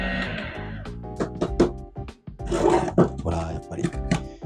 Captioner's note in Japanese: 軽く叩く音